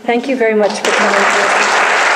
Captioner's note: audience applause